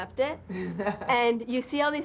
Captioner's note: laughter